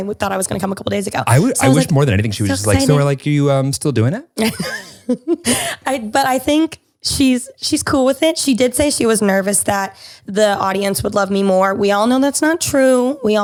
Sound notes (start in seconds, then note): 4.5 laughs